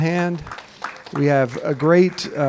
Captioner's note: attendees clapping